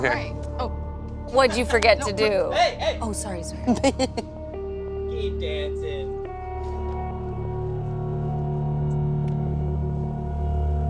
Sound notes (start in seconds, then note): 0.0 dramatic music; 3.6 chuckles; 6.8 dramatic music